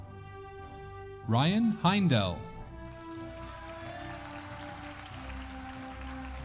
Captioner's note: audience applauding